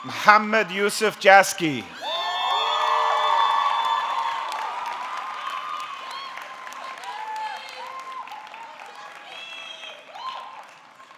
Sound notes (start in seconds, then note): 2.0 audience clapping; 3.1 audience cheering